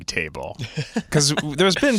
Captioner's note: laughs